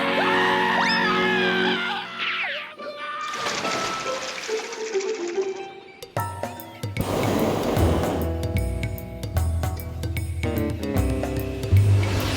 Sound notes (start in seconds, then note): 6.9 burner hissing